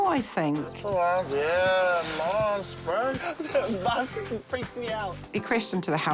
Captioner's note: laughs